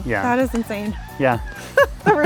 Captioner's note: rooster crowing; laughing